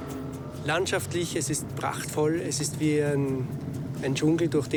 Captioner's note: speaking foreign language